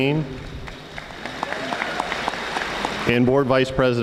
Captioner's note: audience applauding